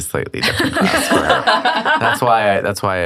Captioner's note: laughing